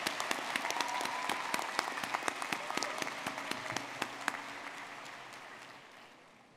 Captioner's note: audience clapping and cheering